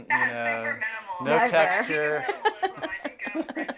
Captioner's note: laughing